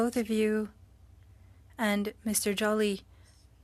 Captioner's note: speaking French